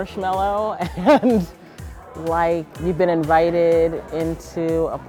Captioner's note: laughing